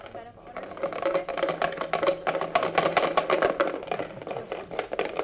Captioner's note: balls shuffling